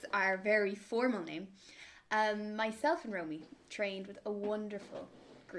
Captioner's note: none